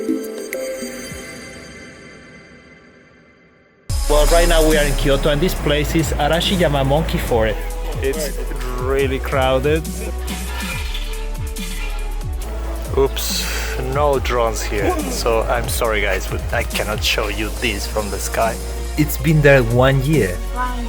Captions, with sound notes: Well right now we are in Kyoto and this place is Arashiyama Monkey Forest. It's really crowded Oops, no drones here (guy coughing loudly in the back) So I'm sorry guys but I cannot show you this from the sky. It's been there one year? - One year